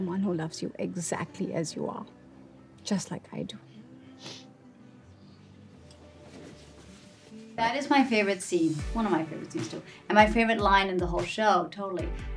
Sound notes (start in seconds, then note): 4.1 Devi sniffs